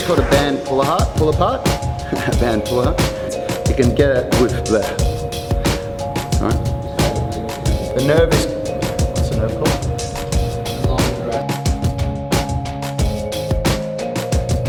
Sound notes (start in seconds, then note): 4.7 groans